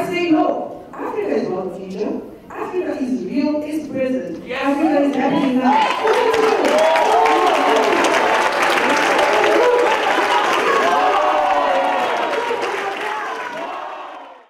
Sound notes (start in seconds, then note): 7.0 cheers and Applause